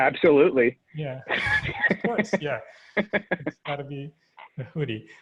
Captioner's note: laughing